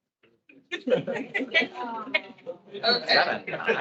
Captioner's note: attendees laughing